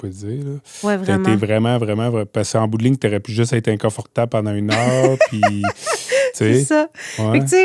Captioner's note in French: rires